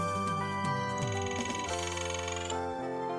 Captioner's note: game Sound Effects